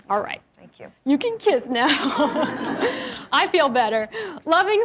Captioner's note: laughs